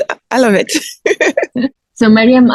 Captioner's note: laughs